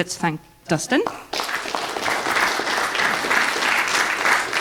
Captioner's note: audience applause